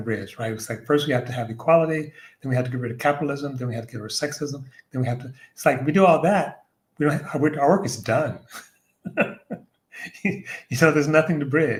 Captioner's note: laughter